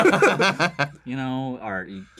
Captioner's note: laughter